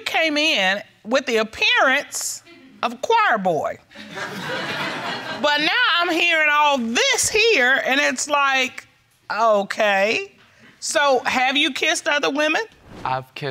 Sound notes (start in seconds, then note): 4.0 audience laughing